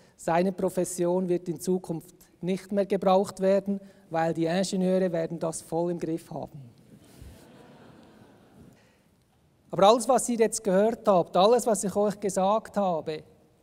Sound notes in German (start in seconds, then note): 7.1 Gelächter aus dem Publikum